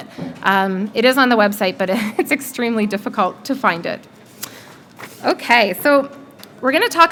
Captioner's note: chuckle